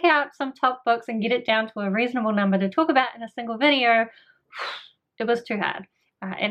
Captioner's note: phew